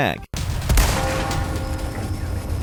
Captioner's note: gunshot; bell tolls